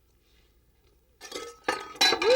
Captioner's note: pans clattering